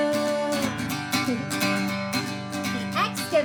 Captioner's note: giggles